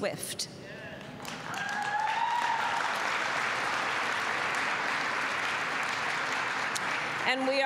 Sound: applause

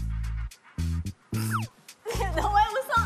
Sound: laughs

